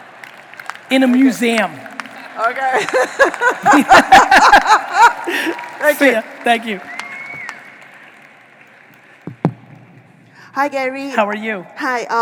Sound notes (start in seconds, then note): 2.7 laughing; 4.1 audience applauding